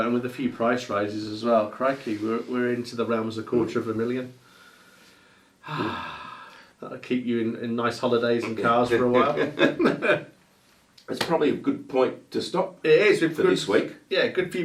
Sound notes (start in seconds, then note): 5.6 presenter sighing; 8.4 presenters laughing